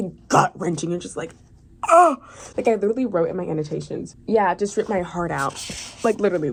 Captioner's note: noises of agony